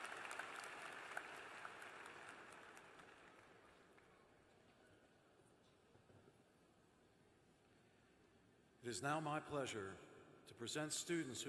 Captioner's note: applause